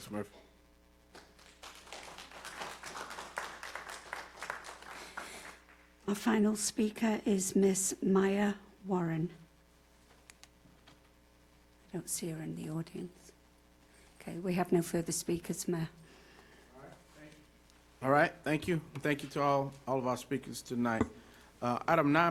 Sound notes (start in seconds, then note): 5.9 applause